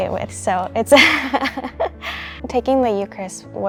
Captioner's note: laughs